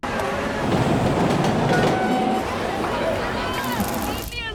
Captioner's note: train rumbling